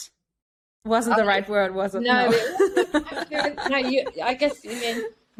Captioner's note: laughs